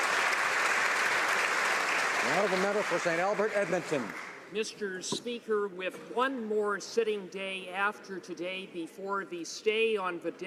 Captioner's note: applause